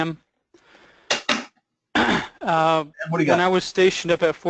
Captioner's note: cough